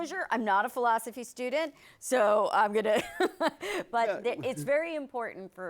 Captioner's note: laughs